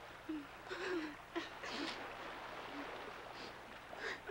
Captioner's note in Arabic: نساء تبكي